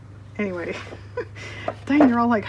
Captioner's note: laughs